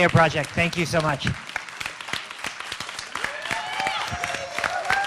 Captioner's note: applause